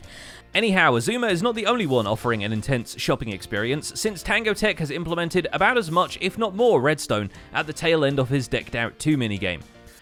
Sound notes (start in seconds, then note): none